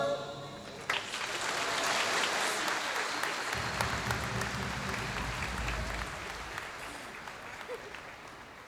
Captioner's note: applause